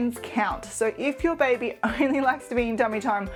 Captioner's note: chuckles